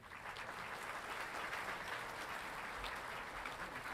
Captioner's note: audience clapping